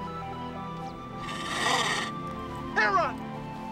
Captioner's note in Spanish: Drogo gruñendo